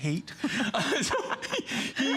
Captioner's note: laughter